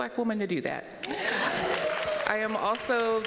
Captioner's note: audience cheering